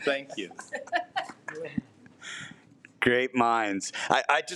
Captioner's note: trustees laughs